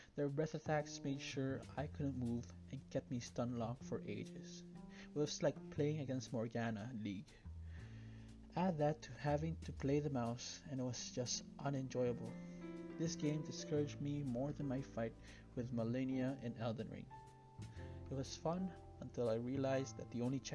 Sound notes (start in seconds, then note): none